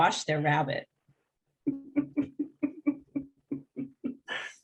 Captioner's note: laughing